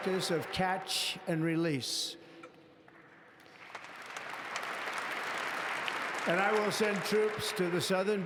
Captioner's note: applause; applause